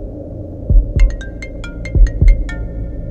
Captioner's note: Phone ringing